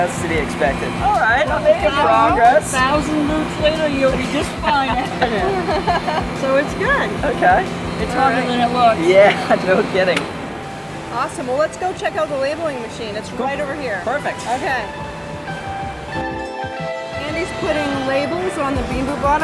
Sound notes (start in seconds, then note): 5.9 laughing; 15.4 upbeat rock music